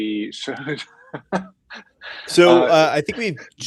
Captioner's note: laughs